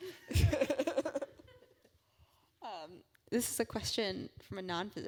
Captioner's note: laugh